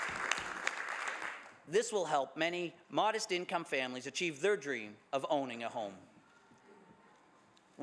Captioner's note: some Applause